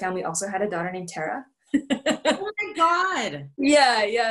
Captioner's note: laughter